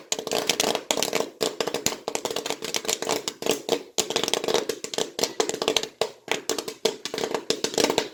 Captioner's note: popping sounds starting to slow down